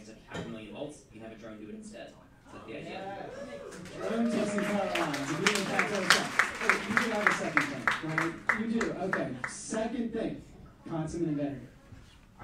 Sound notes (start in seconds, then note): 3.0 cheering; 5.8 applauding drowns out speaker